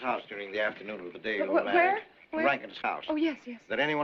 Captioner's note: stuttering